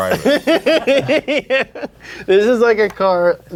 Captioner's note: laughing